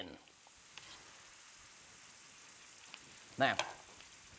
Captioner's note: vegetables sizzle